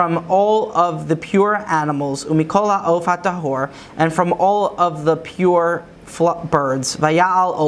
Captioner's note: Hebrew; Hebrew